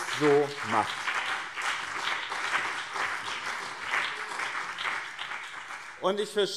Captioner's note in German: Beifall BÜNDNIS 90/DIE GRÜNEN und CDU